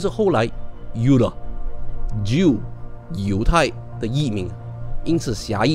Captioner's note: in German